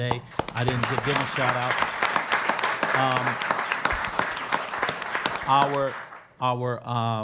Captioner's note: applause